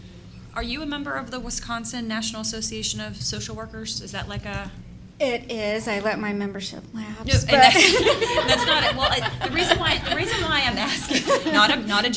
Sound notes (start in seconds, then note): 7.6 laughter